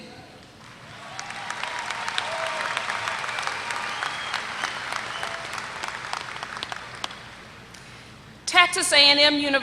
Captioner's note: applause